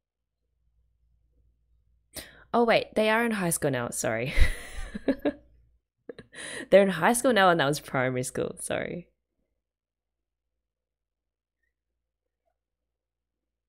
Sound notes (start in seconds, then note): 4.5 laughs